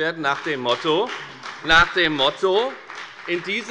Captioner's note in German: Beifall bei der FDP